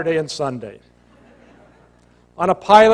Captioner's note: laughter